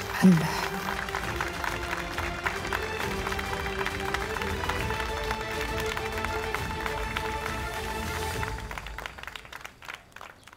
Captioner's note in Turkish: Alkış sesi